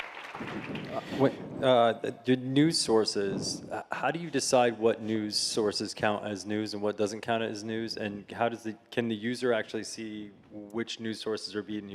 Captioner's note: applause